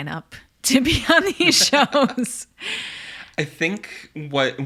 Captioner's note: laughs